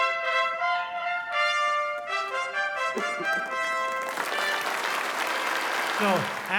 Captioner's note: applause